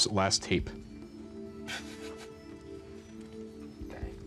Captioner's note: chuckling